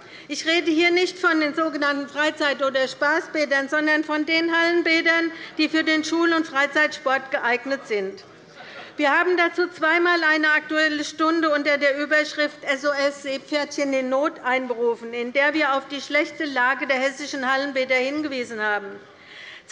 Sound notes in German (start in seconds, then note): none